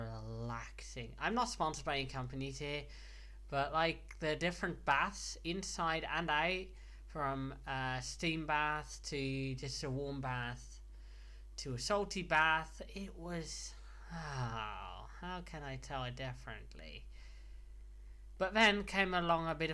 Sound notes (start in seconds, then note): 13.9 sigh